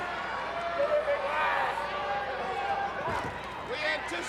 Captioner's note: crowd cheering